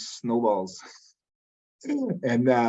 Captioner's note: chuckles